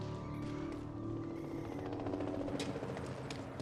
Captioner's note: animal chitters; helicopter flying